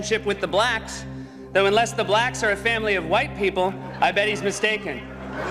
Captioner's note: crowd laughs